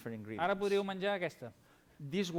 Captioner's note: non-english speech